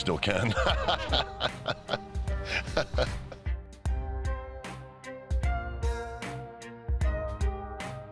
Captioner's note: laugh